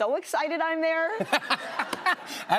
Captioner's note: laughter